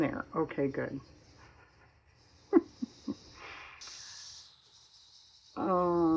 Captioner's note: laughs